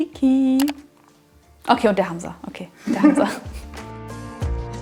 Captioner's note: laughing